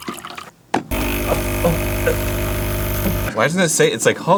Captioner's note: construction machine-like rumbling